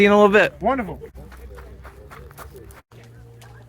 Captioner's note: travel noises